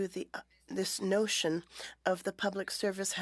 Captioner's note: speaking french